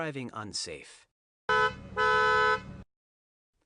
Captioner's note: honking